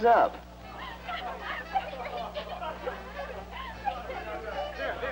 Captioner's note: crowd chattering